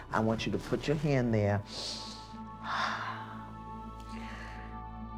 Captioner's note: inhales, exhales